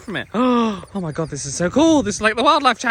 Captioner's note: gasps